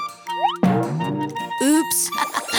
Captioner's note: bonging; chuckling